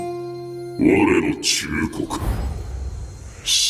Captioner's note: Japonês - mantido no original